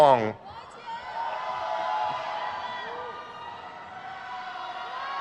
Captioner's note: crowd cheers